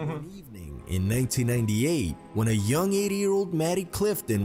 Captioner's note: voice-over